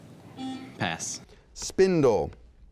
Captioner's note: buzzing